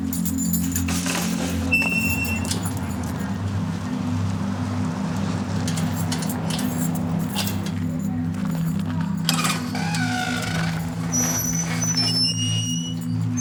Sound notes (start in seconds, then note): 0.0 keys jingling; 2.9 gate creaks; 10.7 gate creaks